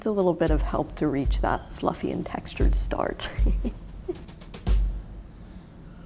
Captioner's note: laughs